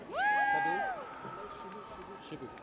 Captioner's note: audience cheers